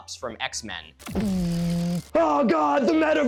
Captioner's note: imitating laser beam